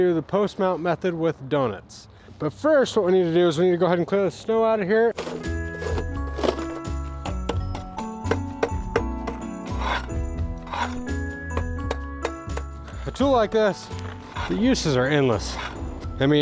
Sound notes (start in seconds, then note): 5.7 christmas music; 8.9 spade scraping